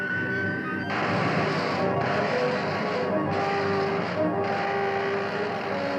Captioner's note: machine whirring; zapping; dramatic music